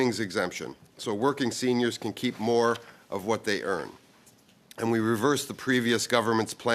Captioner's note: speaking French